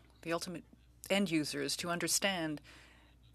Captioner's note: speaking french